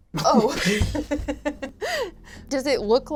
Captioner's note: laughs